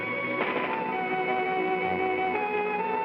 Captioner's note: eerie whimsical music; door closes; eerie whimsical music